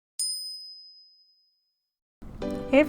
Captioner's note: bell chimes